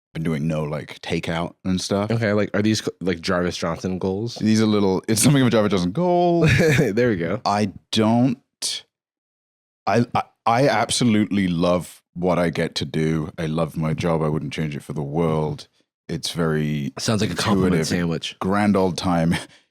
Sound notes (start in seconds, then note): 6.2 laughs